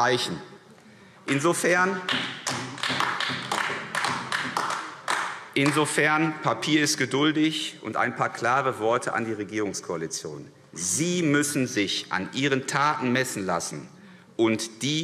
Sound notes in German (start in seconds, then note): 2.0 Vereinzelter Beifall AfD